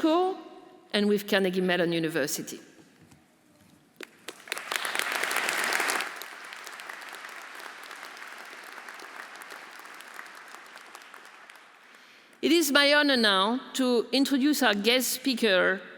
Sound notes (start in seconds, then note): 4.0 audience applauding